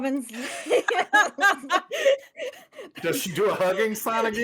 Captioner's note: everyone laughs